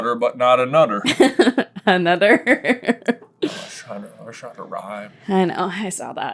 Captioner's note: laughing